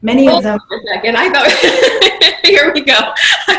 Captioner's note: laughing